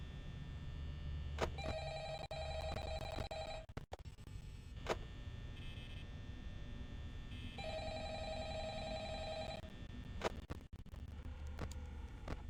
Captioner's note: phone rings